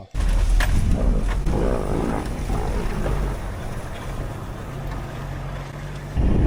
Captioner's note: A lion roars